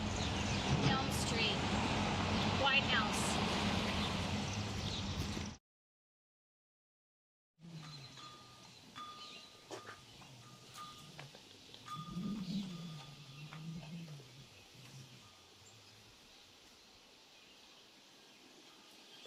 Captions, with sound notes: - L Street, white house. (leaves rustle) (chimes tinkle)